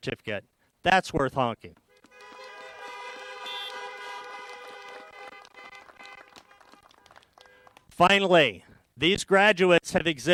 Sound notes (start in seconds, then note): 7.9 applause